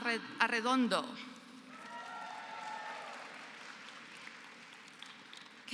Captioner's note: applause